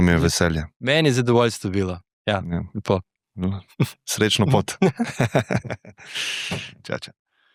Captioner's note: laughs